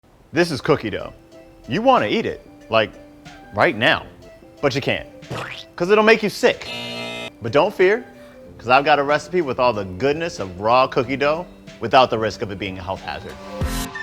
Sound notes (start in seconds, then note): 6.6 buzzer